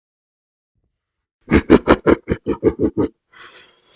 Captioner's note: manic laughter